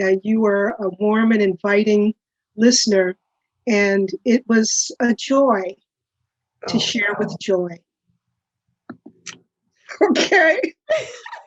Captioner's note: laughter